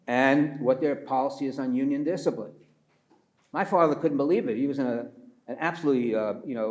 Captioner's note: none